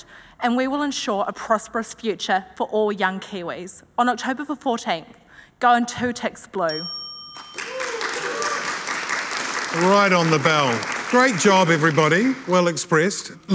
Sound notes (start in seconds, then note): 6.6 bell chiming; 7.4 audience applauding